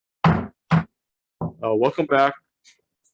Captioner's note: hammers the table